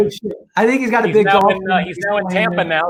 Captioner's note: murmurs